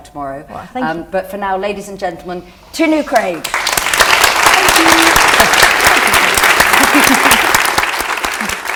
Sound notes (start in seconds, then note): 3.4 applause